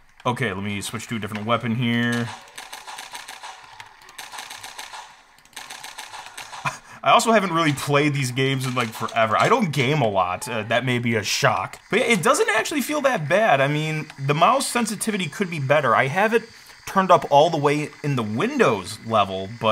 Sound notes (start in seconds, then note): 2.1 gun shots; 3.7 rapid mouse clicking